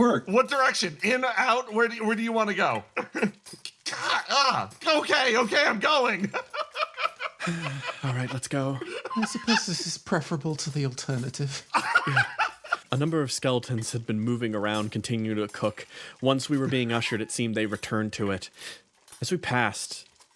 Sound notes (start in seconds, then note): 5.8 laugh; 11.5 laugh